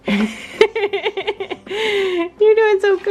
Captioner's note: laughing